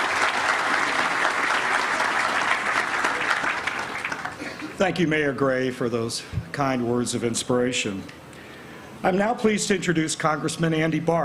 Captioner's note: applause